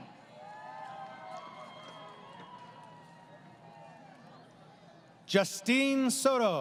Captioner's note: crowd Cheering